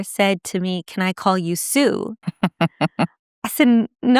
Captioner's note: laughing